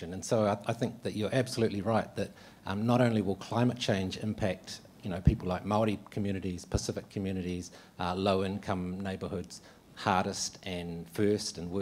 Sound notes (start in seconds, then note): none